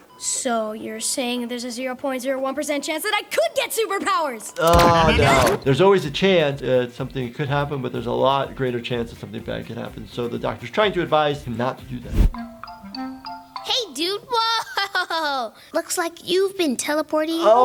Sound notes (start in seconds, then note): 4.6 gun warping; 12.3 bouncy music